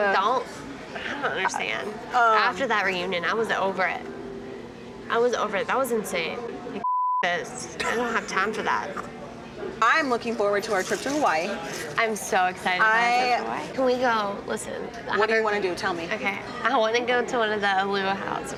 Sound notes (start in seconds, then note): 6.8 beep; 7.8 laughs